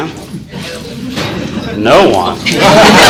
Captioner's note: class chattering